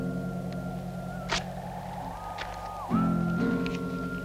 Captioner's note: ripping; gentle music